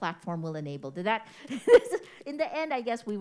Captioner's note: chuckles